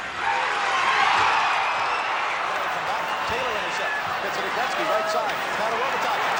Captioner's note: crowd cheers